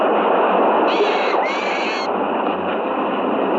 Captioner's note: bird shrieking